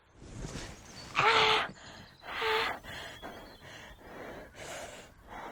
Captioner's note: Andrea groans in pain